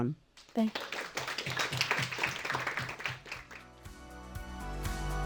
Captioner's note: audience applauding; bright music